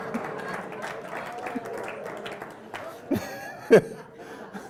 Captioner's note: applause; laugh